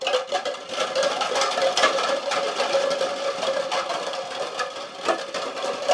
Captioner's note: clattering continues